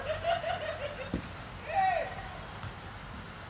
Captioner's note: manic laughter